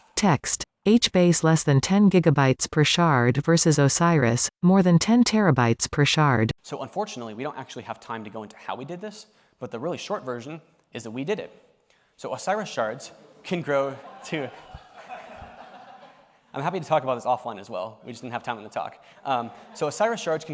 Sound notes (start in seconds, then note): 13.9 laughter